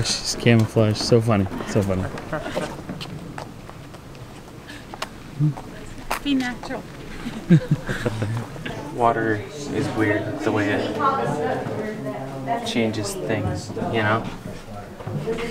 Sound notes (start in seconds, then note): 7.0 giggles